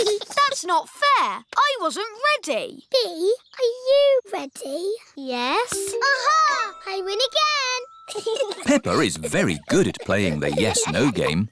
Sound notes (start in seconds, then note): 8.0 chuckles